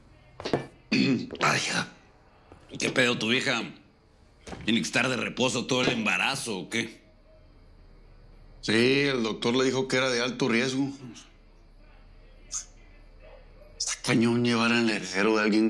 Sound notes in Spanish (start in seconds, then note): 0.9 Carraspea